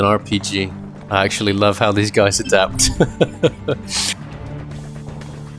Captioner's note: laughter